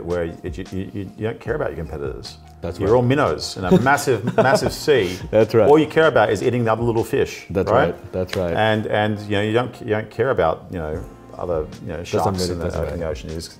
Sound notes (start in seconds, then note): 3.6 laughing